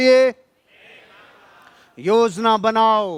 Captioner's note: public Chattering